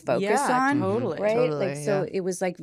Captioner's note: all agreeing